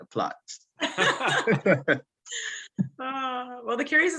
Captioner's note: laughter